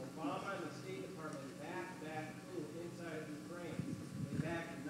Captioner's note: none